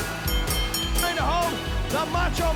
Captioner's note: bell rings